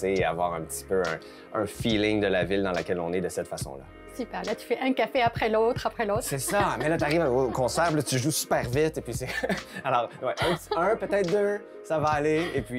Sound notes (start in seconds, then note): 9.6 laughs